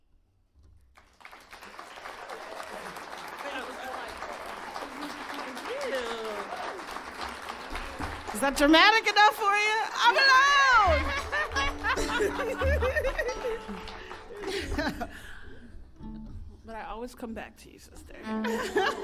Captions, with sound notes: [audience applauding] - Thank you. - That was delightful. Thank you. - Is that dramatic enough for you? I'm alone! [both laughing] - But I always come back to you, sister [laughs].